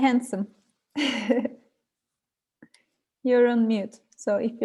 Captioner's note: chuckles